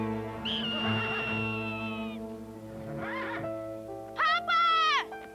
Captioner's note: horse whinnying